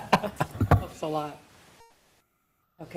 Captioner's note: board chuckles